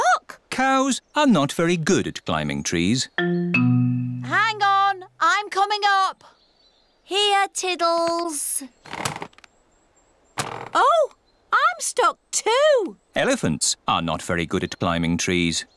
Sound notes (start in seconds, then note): none